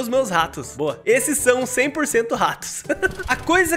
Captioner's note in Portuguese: risos